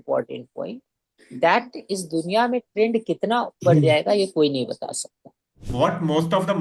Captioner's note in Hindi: गला साफ़ करने की आवाज़